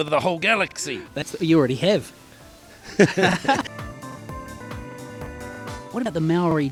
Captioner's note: laughs